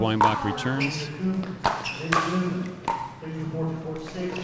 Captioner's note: ball clacking